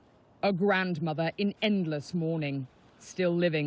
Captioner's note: voice-over